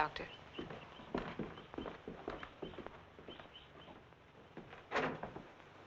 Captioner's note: birds chirping; footsteps thumping; door rattling